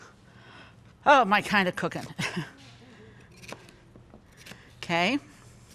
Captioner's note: chuckling